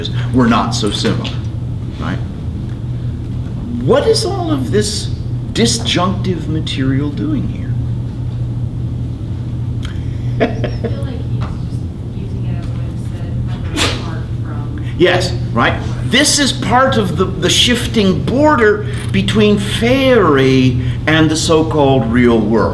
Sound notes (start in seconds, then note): 9.8 laughs; 11.6 student off mic